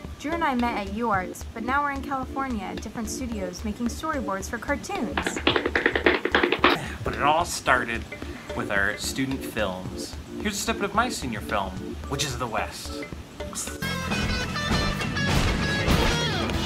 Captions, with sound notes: - Drew and I met at UArts, but now we're in California at different studios making storyboards for cartoons. (footsteps tapping loudly) - But it all started with our student films. Here's a snippet of my senior film, "Witches of The West." (energetic rock music)